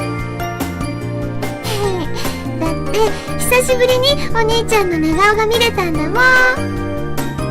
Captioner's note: chuckles